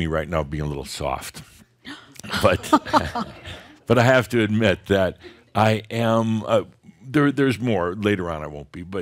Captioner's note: gasps and some chuckles